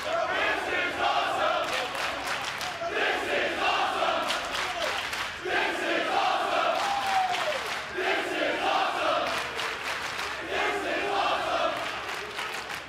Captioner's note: fans chanting